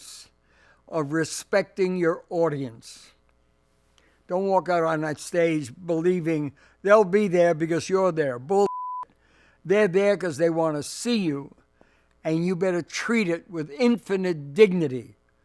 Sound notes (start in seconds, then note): 8.6 beep